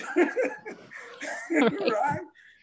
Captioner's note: both laughing